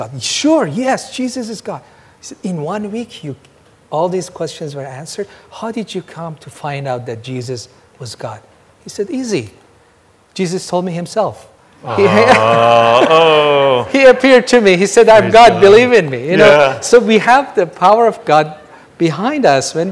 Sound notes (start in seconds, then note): 11.9 audience laughing